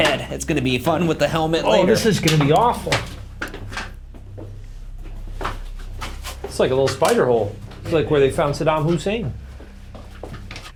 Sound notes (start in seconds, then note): 1.9 shoes clacking